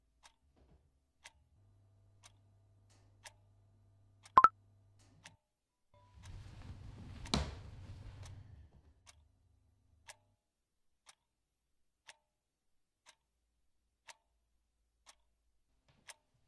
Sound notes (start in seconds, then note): 4.4 notification sound